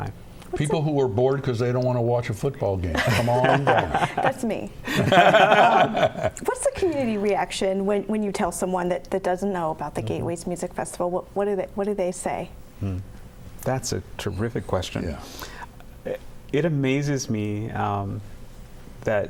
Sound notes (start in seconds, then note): 4.8 laughter